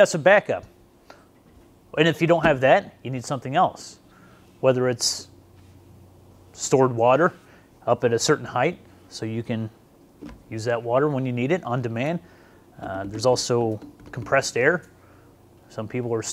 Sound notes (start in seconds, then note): none